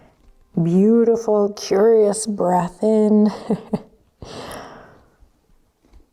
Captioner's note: chuckles